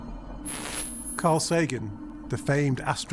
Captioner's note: static crackling